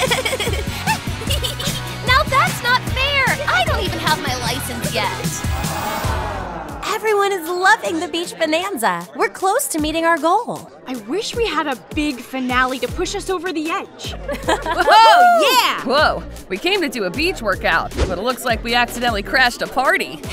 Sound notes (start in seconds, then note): 0.0 laughs; 5.3 crowd sighs; 14.7 athletes cheer